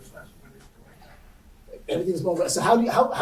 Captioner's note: faintly speaking